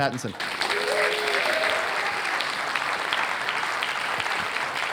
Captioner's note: audience applauds